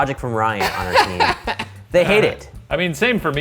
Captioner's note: laughs